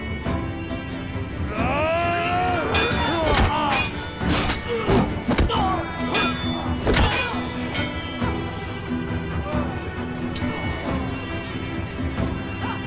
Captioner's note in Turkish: Çarpışma sesleri